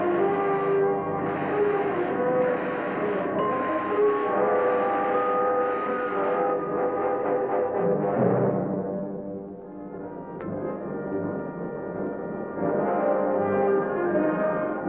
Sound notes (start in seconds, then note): 3.4 ding